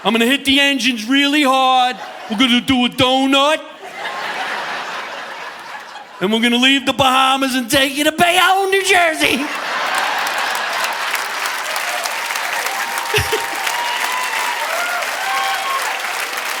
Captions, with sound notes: I'm gonna hit the engines really hard. We're gonna do a donut (audience laughing) and we're gonna leave The Bahamas and take you to Bayonne, New Jersey. (chuckles) (audience laughing) (audience applauding)